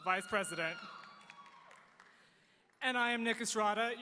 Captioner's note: audience cheering